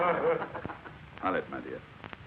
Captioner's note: class laughs